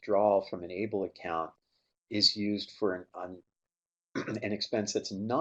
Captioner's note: clears throat